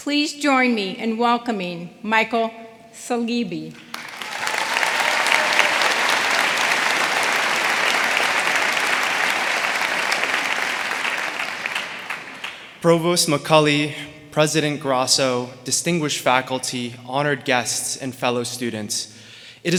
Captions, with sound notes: Please join me in welcoming Michael Saleeby. (audience applauding) (audience cheering) - Provost McCauley, President Grasso, distinguished faculty, honored guests, and fellow students;